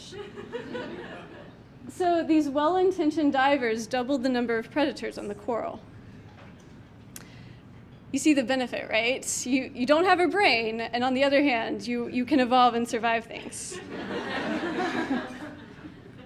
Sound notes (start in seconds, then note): 0.1 laughter from the audience; 6.1 clicks mouse; 13.8 audience laughing